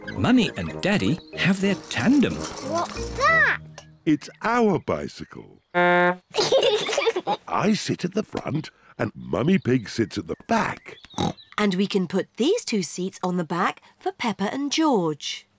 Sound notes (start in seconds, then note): 5.7 toots horn; 6.3 both giggle; 11.1 snorts